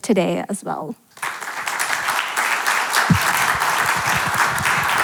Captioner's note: audience clapping